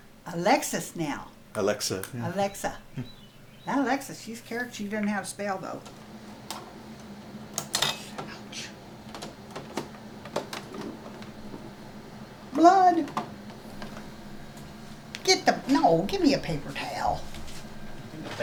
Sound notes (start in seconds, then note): 2.9 Jerold chuckles; 7.5 machine clicking; 13.0 machine clicking